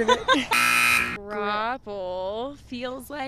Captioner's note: loud alarm sound appear